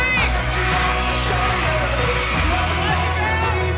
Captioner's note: cheering